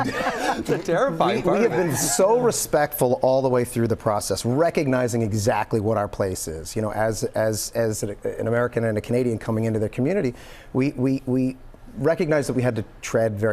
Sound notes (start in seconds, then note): 1.6 laughter